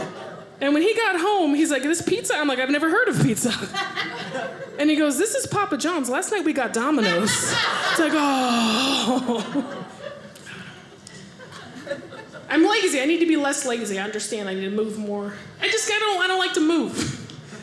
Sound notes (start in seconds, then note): 8.7 audience laughing